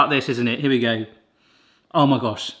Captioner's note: sniffs